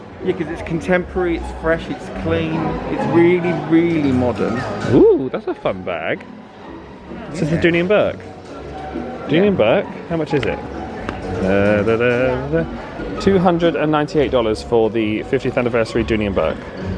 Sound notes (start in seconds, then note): 11.7 humming